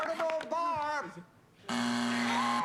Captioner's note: buzzer